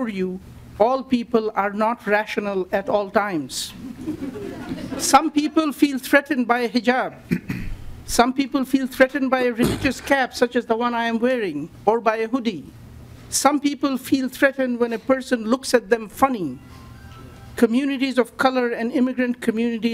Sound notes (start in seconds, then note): 9.6 lauging